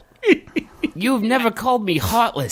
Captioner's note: wheezing laughter